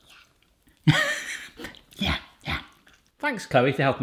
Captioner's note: laughs